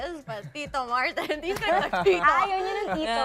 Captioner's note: laughter